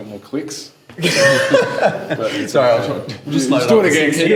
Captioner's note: laughs